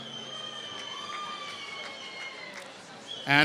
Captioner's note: applause